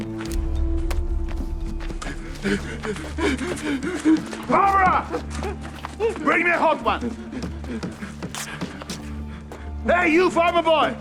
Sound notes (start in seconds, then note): 1.8 sobbing